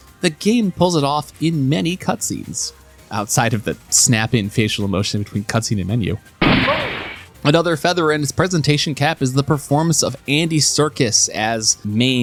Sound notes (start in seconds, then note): 6.4 gunshot